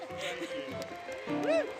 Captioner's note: applause